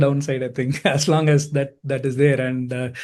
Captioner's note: chuckles